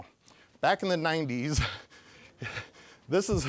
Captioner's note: chuckling